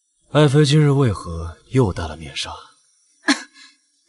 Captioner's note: cough cough